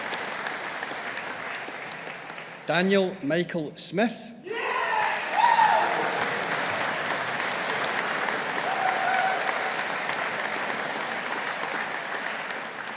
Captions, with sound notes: Daniel Michael Smith. (AUDIENCE APPLAUDING)